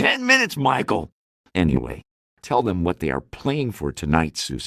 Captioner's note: none